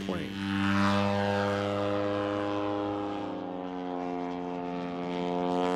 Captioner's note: engine propeller sounds